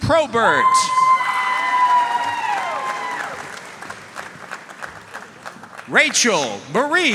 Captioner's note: audience cheering and applauding